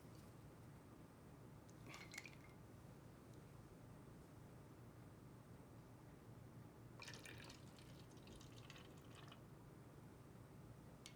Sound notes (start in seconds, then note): none